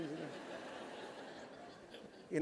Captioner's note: laughter